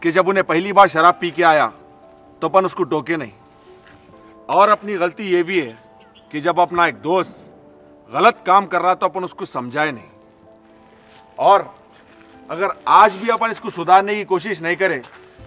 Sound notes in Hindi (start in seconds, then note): none